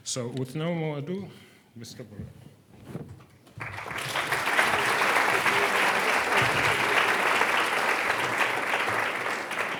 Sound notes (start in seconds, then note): 3.6 audience applauding